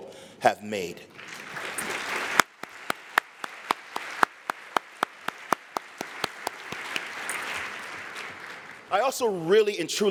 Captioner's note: applause